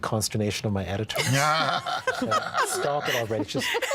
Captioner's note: all laughing